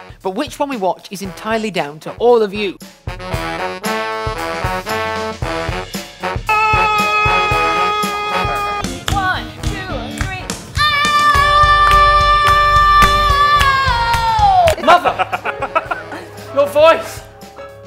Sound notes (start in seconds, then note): 6.7 screams